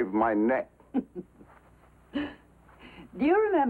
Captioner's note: Barbara laughs